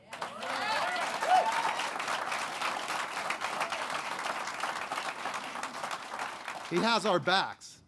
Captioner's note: applause